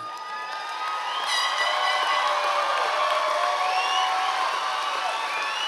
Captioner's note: members of the audience cheering